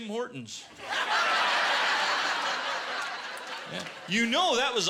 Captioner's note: laughter